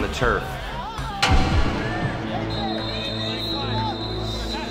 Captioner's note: whistles and Player Chatter